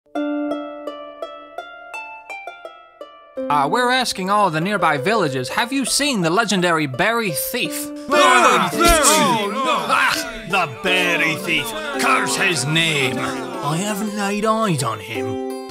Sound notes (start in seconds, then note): 8.1 villagers Grumbling; 9.3 spitting noises